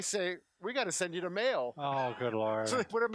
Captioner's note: laughs